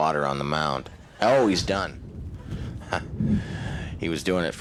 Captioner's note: chuckles